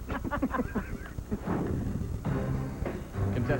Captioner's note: laughter